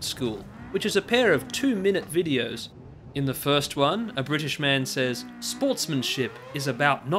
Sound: imitating the narration of Tom Brooks

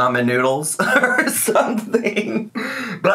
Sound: laughs

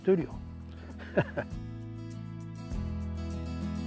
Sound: laughs

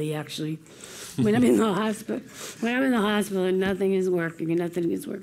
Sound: laugh

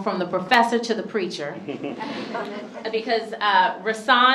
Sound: chuckles

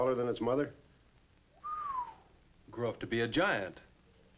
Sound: whistles

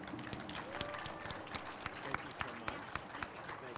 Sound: crowd cheers and applauds

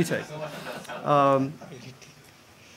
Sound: laughter

